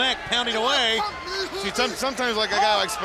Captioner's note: crowd chatter